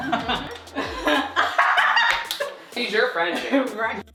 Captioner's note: exaggerated laughter